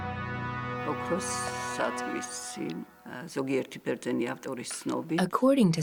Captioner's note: speaking Georgian